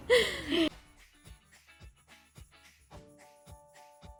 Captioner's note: ladies laugh